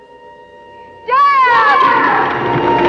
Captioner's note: echoing